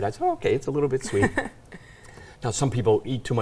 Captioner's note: laughing